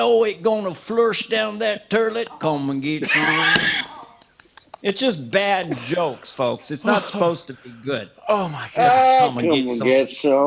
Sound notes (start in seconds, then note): 3.0 laughter